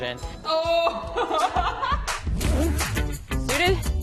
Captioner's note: laughs